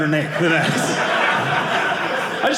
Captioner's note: audience laughing